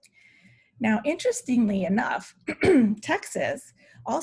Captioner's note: clears throat